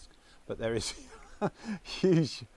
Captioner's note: laughs